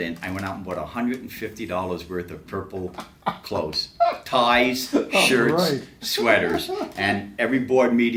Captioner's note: laughs